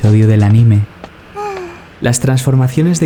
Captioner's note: Usagi sighs